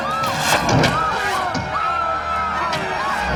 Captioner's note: arrow striking; people screaming; arrows striking